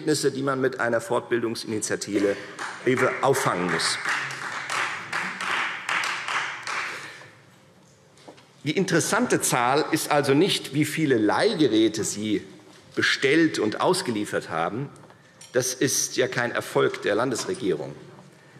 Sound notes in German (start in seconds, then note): 4.8 Beifall Freie Demokraten